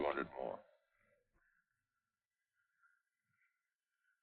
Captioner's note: chatter